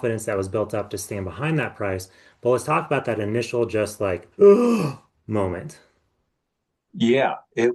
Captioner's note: gasp